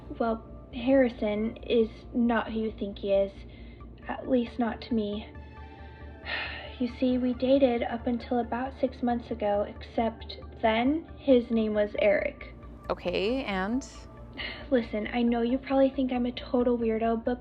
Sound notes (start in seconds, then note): 6.3 sighs